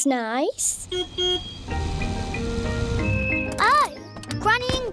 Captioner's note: car horn beeps